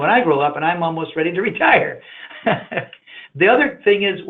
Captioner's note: laughs